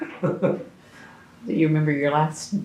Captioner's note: laughs